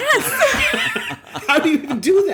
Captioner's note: laughter